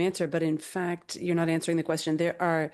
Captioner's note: speaking in French